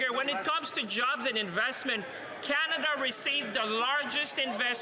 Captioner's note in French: voix de l'interprète